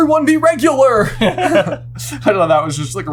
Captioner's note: both giggle